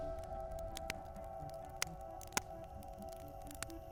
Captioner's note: fire crackling